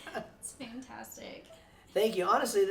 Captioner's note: chuckles